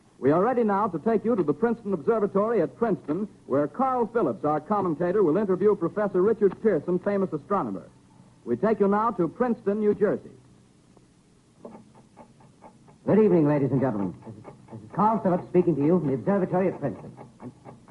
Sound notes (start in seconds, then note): 13.6 clock ticking in background